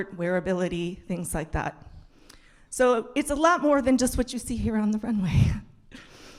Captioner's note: none